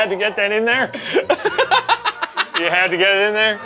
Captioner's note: laughing